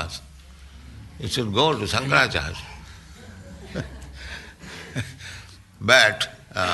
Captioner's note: laughs